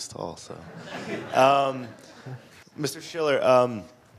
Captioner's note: audience laughing